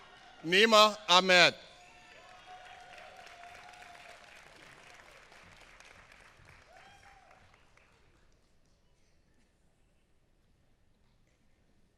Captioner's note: applause